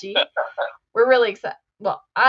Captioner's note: laughs